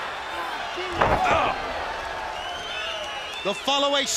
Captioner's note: crowd cheering